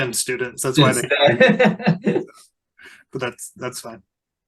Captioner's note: people laughing and talking